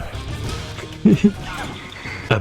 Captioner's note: laughs to myself